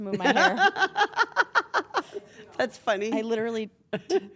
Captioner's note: laugh